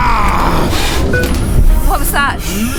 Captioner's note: system beeping